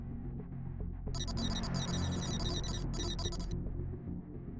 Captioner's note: uneasy music continues; text beeping; uneasy music continues